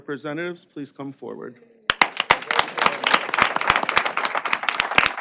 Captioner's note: applause